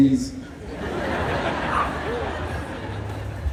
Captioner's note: laughter